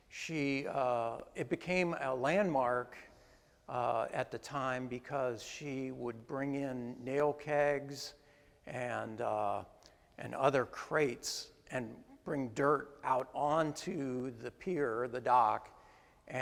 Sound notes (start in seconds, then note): none